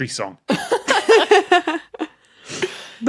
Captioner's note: guests laughing